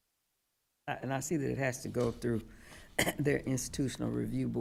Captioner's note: coughs